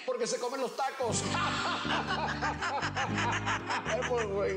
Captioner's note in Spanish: Risas